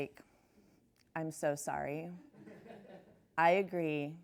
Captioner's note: laughs